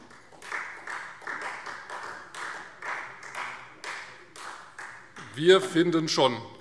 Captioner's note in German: Beifall Freie Demokraten